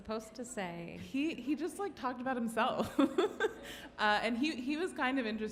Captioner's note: laughs